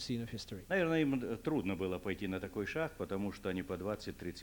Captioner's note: non-english speech